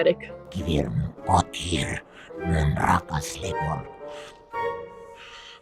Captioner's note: speaks in demonic language